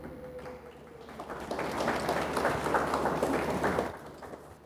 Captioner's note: audience applauds